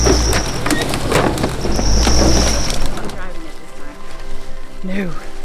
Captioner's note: vegetation crackling